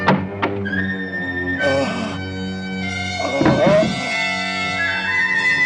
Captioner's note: ghoul groaning